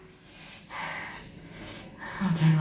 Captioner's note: breathing